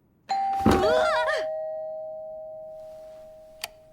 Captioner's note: scaredy cat chibi noises